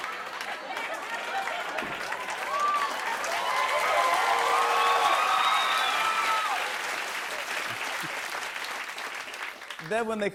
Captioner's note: laughter; cheers and applause